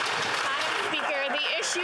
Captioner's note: applause